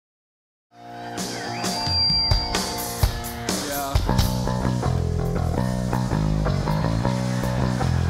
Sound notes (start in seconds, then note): 0.9 crowd cheering; 4.2 upbeat rock music